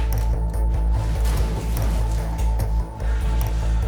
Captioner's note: other door slams; body sliding down wall